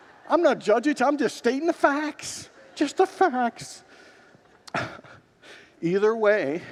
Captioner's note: congregants laugh; congregants laugh